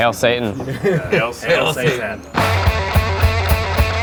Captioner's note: laughs; upbeat rock music